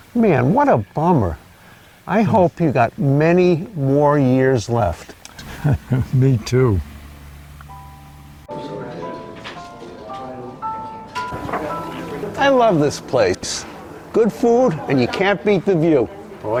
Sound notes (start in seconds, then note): 5.0 laughing; 8.0 soft music